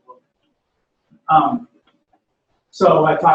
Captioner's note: pause